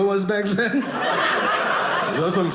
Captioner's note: audience laughing